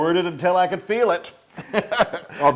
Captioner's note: laugh